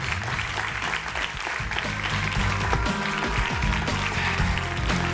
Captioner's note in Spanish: aplausos